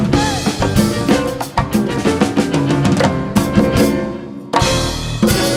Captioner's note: audience cheering and applauding